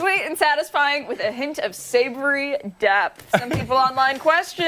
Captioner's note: laughter